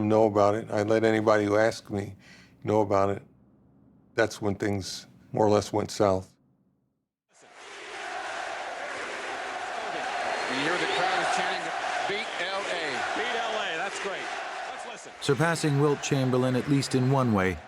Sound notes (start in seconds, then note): 6.9 crowd chanting